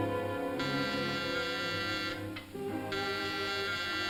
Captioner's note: doorbell buzzes